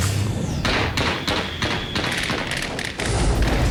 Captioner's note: gunfire